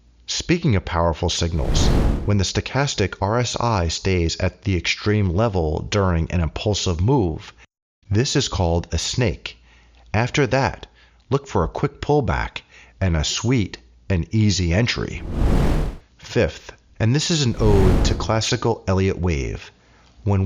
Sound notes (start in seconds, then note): 15.1 air whooshing